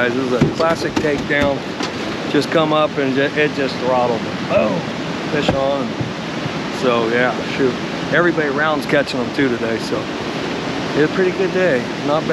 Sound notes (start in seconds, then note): 4.5 chuckling